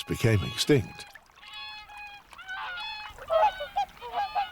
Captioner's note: swans honking